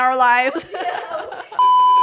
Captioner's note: laughs